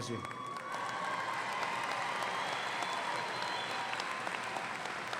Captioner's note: audience applauding